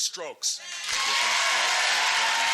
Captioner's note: cheering